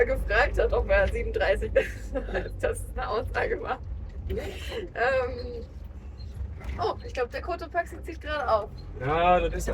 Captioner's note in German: gelächter